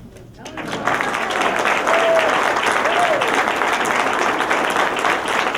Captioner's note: applause